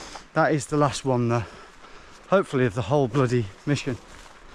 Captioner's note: none